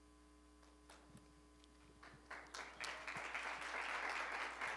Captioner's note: applause